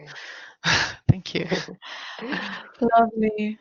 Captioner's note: chuckling